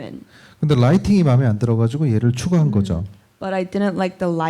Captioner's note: speaking korean